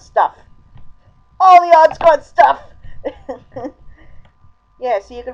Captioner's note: awkward laughter